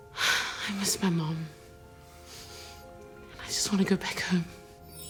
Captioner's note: sighs